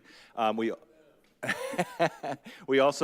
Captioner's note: laughs